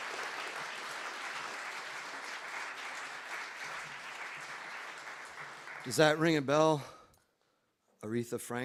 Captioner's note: applause